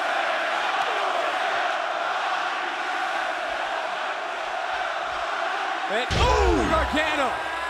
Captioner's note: crowd cheering